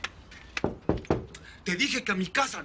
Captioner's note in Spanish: Toques en la puerta